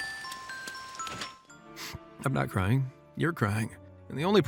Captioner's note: sniff